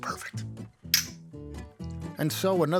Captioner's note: glasses clink